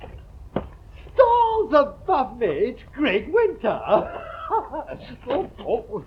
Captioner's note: laughs